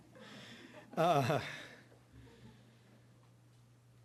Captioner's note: audience laughing; laughing